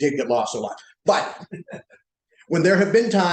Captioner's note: laughter